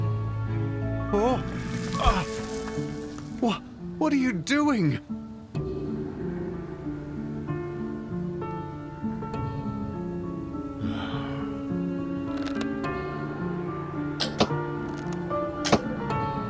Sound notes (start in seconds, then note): 1.1 the stranger cries out; 8.4 Bardo sighs